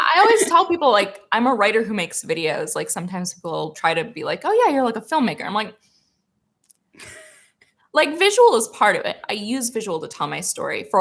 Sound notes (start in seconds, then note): 7.0 chuckles